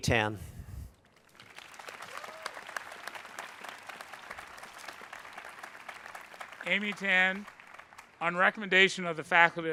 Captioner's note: applause